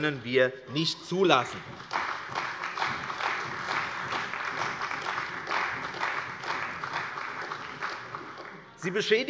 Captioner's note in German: Beifall bei der CDU